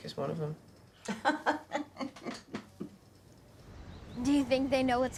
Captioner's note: Ms. Odell laughs